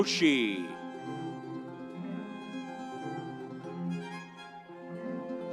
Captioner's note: audience cheering